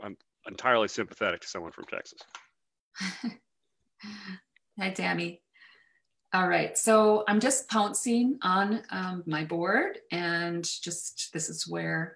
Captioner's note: chuckles